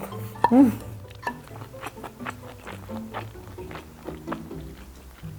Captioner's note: brb chewing for a sec